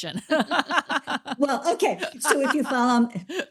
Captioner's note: all laughing